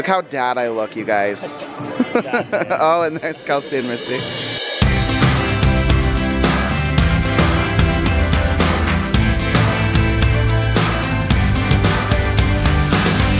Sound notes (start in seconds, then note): 1.6 laughs; 5.9 light music